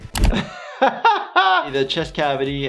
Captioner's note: laughter